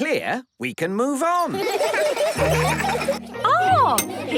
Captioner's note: laughter